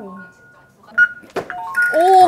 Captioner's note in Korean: 기계 알림음